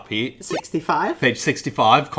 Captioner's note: beeps